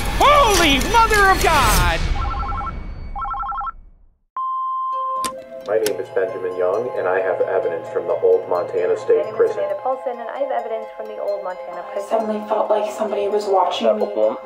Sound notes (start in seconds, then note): 3.1 phone ringing; 4.7 eerie music